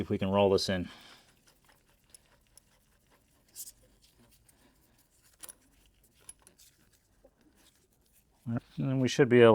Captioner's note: scraping